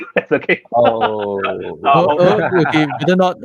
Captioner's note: laughter